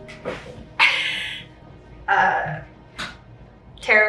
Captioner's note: laughs